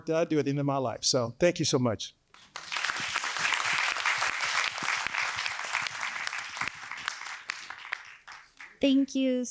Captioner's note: applause